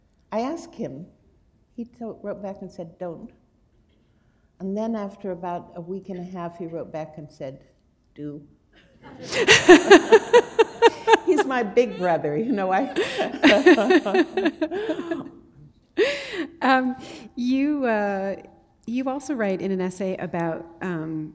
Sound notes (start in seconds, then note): 9.0 laughter